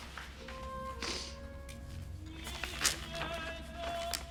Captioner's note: sniffs